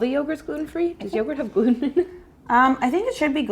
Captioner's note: laughs